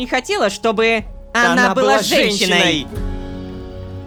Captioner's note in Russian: хором